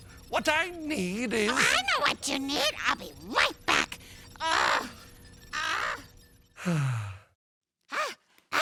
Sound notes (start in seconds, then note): 6.6 sigh